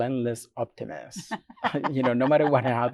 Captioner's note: laughs